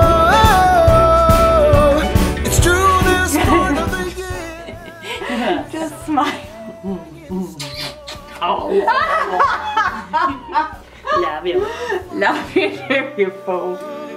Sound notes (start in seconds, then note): 2.7 laughing; 6.4 happy noises; 6.6 eating noises; 7.9 laughing